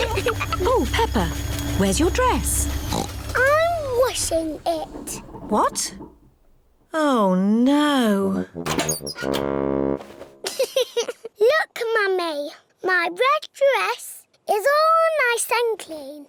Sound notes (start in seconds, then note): 2.6 oinks; 10.4 giggles